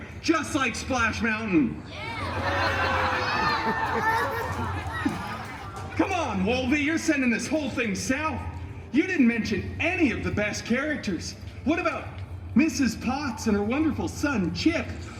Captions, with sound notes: Just like Splash Mountain. [guests cheering and laughing] Come on, Wolvie, you’re sending this whole thing south. You didn’t mention any of the best characters. What about Mrs. Potts and her wonderful son, Chip?